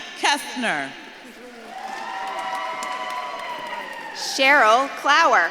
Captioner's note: audience claps and cheers